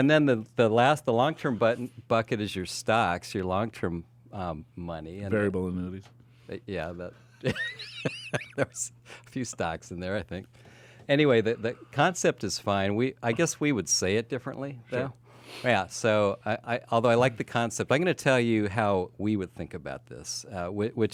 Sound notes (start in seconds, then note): 7.4 laughs